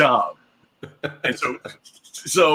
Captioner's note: laughs